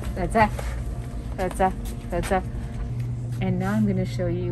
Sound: foreign language

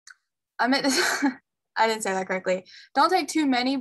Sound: giggle

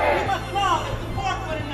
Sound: murmurs

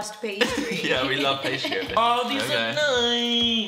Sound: laughs

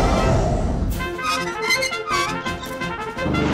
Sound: squeaking

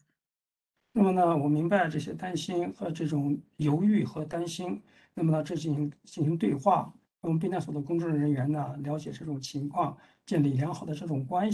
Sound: speaks in Mandarin

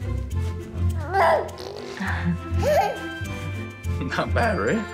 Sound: baby happy gurgle

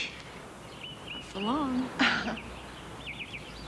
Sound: laughs

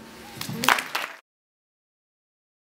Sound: applause

